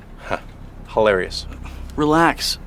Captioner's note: laughs